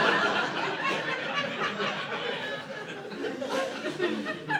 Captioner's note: laughter